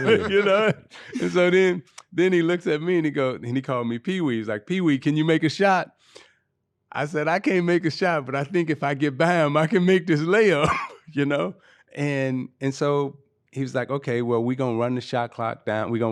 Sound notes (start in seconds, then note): 11.2 laughing